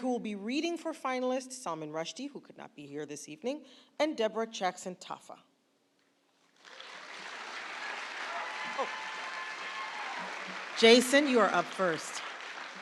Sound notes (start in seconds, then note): 6.5 applause